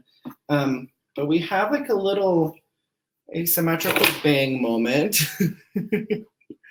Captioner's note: laughs